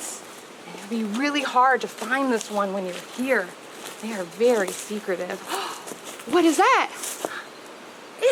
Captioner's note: gasp